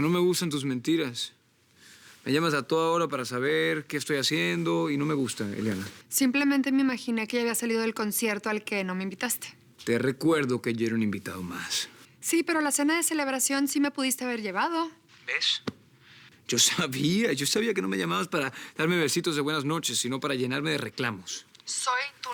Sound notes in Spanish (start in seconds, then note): none